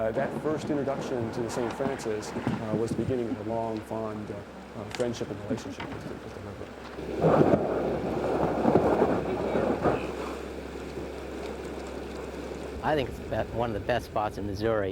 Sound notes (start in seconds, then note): 7.7 canoe scraping; 10.6 water flowing